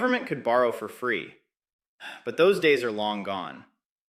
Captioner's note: sighs